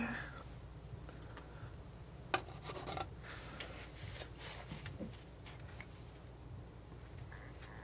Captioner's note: scratching